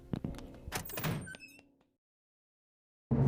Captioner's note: dramatic door slam open